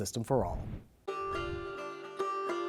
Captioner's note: gentle music; transition whooshing